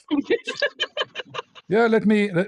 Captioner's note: ketawa